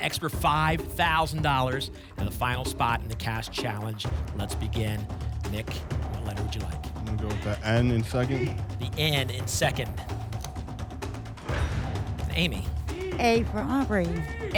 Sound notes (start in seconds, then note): 11.4 ping; 11.4 whoosh